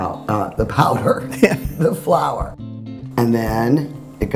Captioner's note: laughing